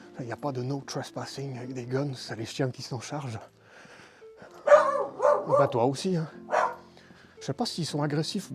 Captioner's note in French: Woof!